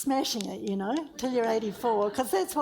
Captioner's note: audience laughs